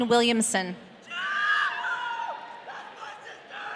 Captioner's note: audience cheering